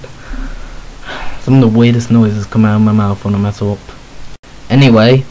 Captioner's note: sigh